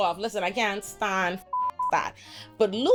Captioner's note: beep